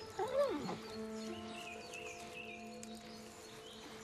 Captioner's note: whimpering